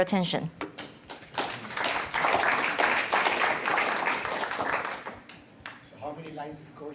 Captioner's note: applause